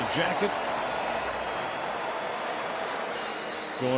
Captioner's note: cheering